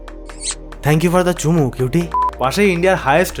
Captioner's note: kisses